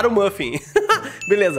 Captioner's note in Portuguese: risos